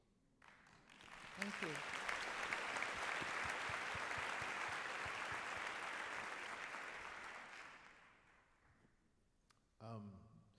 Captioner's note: applause